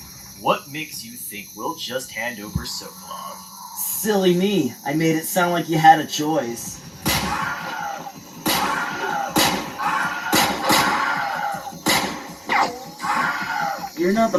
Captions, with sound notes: What makes you think we'll just hand over Sokolov? Silly me! I made it sound like you had a choice. (Wilhelm scream) (Wilhelm scream) (Wilhelm scream) (Wilhelm scream)